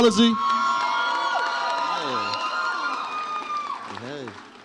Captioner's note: audience applauds and cheers